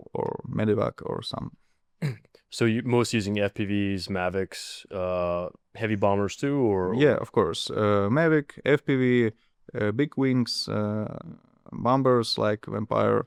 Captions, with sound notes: or medevac or some. [clears throat] So y- most using FPVs, Mavics, uh, heavy bombers too, or- Yeah, of course. Uh, Mavic, FPV, uh, big wings, uh, bombers like Vampire.